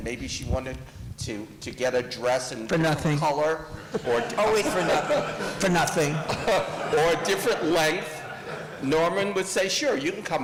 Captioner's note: laughter